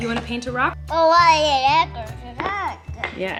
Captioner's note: babbles